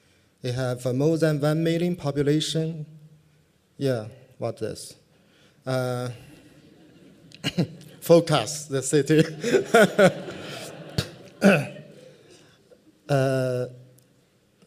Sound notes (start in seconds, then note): 9.1 laughter; 9.2 laughs